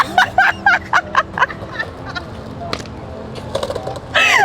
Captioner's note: laughing